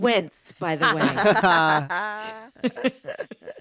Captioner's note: all laughing